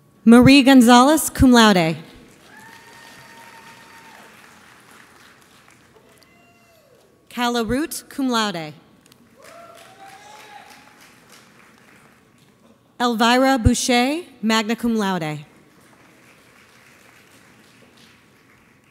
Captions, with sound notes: Marie Gonzalez, cum laude. (audience applauds) Calla Root, cum laude. (audience applauds) Elvira Bouchet, magna cum laude. (audience applauds)